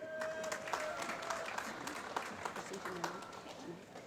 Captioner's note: applause